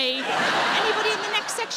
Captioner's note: audience laughing